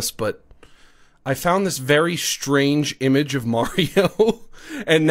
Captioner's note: laughs